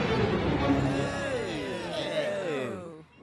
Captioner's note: skaters moan